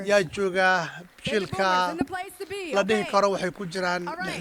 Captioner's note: applause